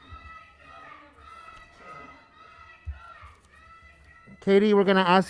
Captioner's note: protestors interjecting